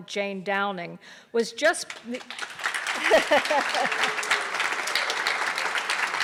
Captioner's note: audience applause